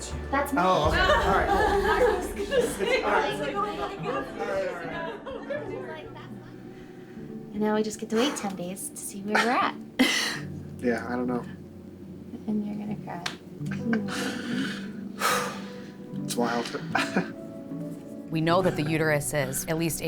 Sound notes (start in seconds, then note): 0.9 all laughing; 1.0 laughs; 3.3 all laughing; 14.0 exhales